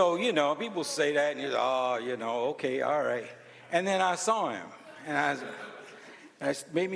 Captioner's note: laughter